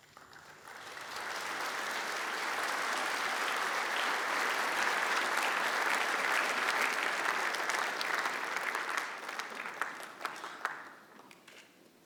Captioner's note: applause